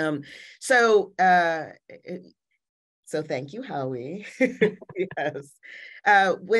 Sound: laughing

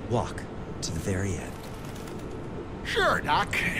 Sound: bird wings flutters

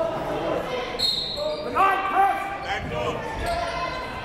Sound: whistle

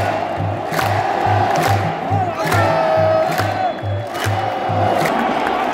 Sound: clap

